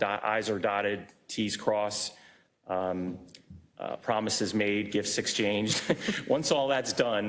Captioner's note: laugh